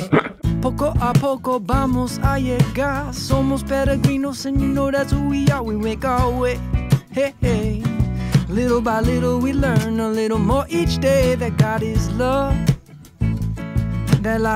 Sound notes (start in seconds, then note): 3.4 foreign language